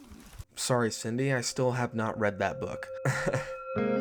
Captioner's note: laughs; calm music